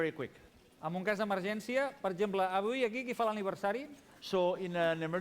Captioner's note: non-english speech